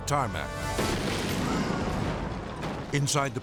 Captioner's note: jet exploding